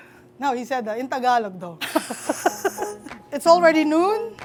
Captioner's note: laughs